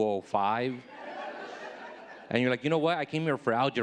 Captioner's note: audience laughing